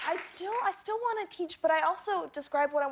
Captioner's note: applause